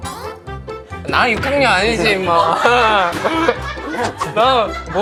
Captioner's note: smack